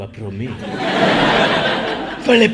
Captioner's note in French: accent italien; rires